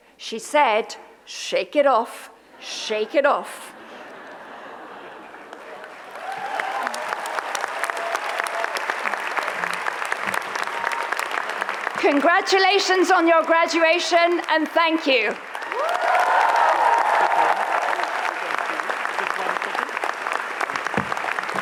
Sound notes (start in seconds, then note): 3.6 audience laughs; 5.7 audience cheers; 6.0 audience applauds; 15.4 audience cheers; 16.7 audience applauds